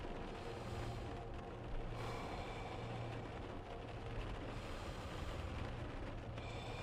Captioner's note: lighthouse Keeper breathing heavily